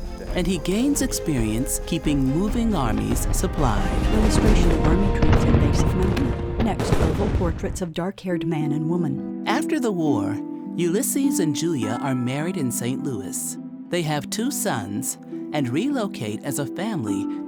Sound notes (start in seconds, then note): 4.8 battlefield voices and artillery firing; 8.2 quiet music